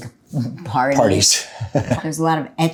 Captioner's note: chuckles